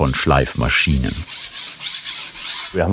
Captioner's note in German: Schleifgeräusche